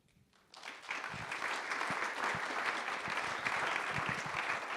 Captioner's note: audience claps